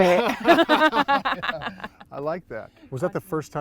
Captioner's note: laughing together